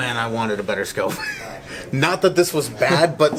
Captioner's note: laughing